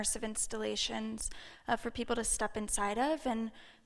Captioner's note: none